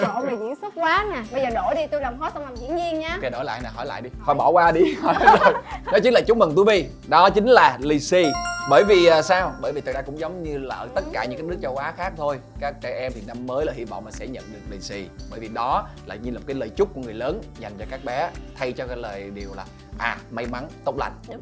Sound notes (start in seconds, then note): 5.4 laugh